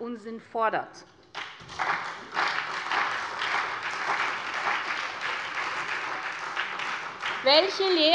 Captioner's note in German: Beifall SPD, CDU und BÜNDNIS 90/DIE GRÜNEN